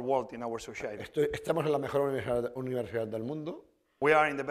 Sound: speaking spanish

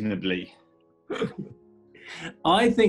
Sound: giggling

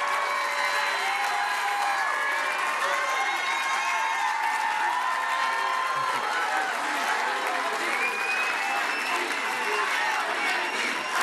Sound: cheering and Applause

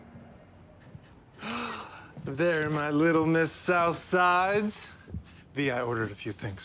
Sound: gasps

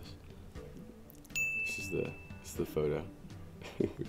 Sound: ding; laughs

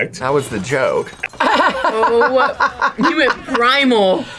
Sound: laughs

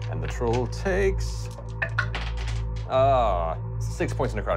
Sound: rolling dice

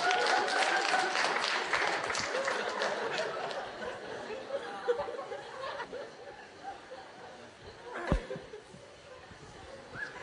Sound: more laughter

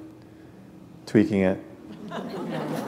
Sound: laughter

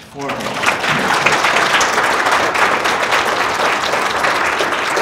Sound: audience clapping

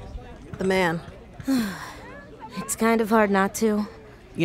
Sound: sighing

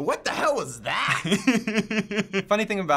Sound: chuckling

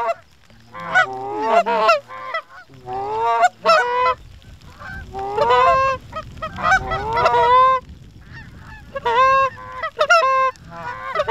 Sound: goose Calling

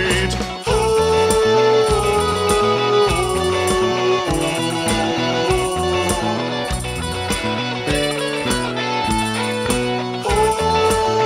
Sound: ghost sounds

